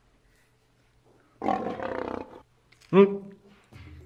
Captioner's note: roar!